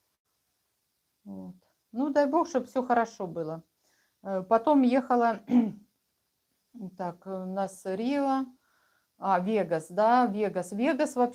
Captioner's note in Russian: откашливается